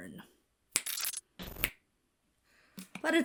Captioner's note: "Hana" snaps fingers